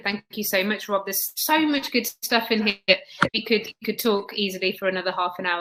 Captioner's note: erm